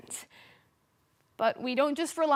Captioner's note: soft breathing